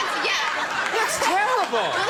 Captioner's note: crowd laughs